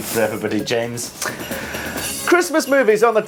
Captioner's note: sound of sleigh bells